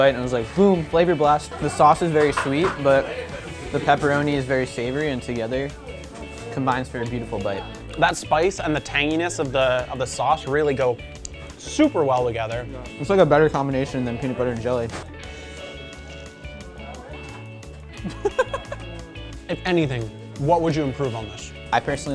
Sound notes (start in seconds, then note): 11.3 smacks; 18.3 laughs